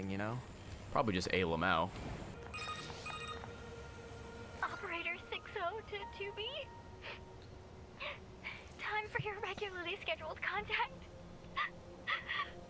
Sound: cries

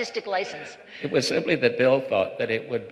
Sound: laughter

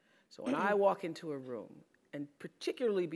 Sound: cough

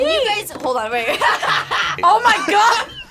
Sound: laughs

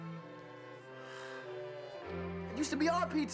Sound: sigh s

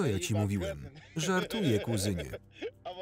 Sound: laughing

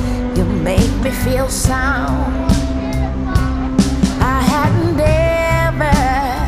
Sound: laughs

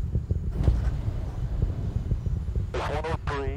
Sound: motors fire

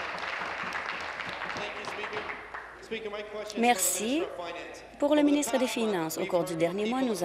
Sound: applause

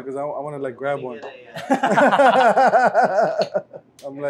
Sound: laughs

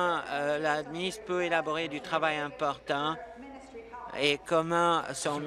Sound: speaking in French

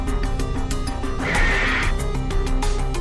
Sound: screaming

